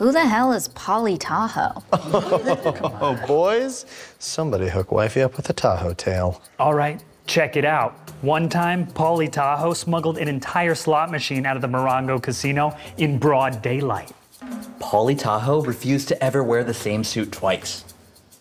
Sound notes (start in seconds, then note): 2.4 chuckle